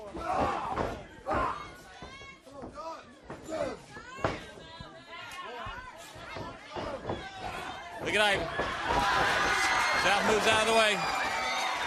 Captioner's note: crowd chatter